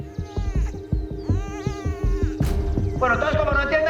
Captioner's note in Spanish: Gimoteos del bebé